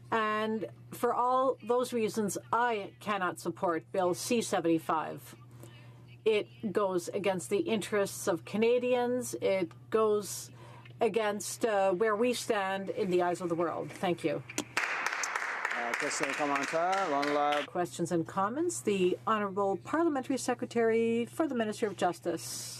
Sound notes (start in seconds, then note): 17.0 applause; 18.0 some Applause